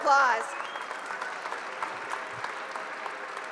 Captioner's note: applause